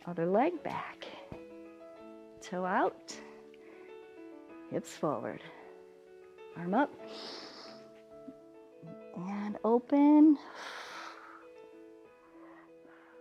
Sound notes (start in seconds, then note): 7.0 inhales; 10.4 exhales